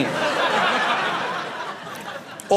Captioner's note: audience laughing